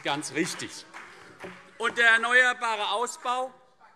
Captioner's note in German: Demonstrativer Beifall